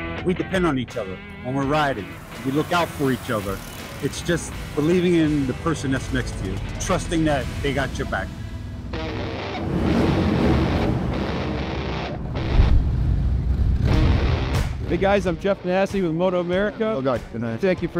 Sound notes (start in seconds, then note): 11.2 motorbike engines revving; 14.4 upbeat music